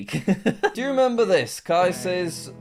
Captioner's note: chuckles